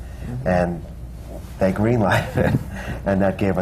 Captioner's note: laughs